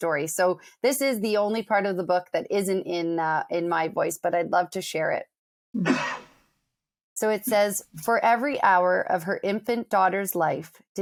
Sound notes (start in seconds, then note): 5.8 sneezes